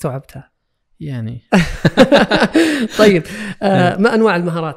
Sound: laugh

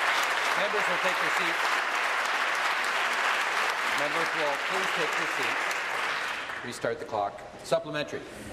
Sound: applause

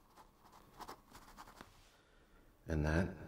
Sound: none

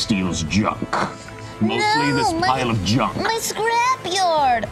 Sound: imitates child's voice

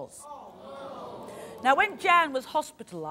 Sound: audience gasps

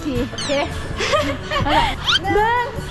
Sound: laughs

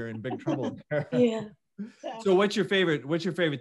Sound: laughs

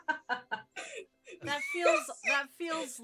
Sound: laughter

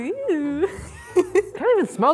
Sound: laughing

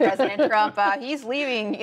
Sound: laughter

